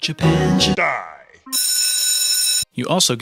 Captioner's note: bell ringing